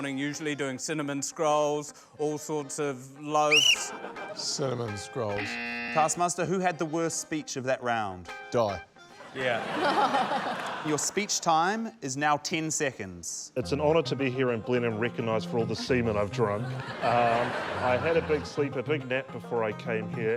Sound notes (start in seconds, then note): 3.4 blows whistle; 5.4 buzz!; 9.2 laughter